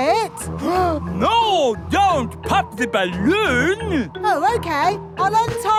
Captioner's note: gasps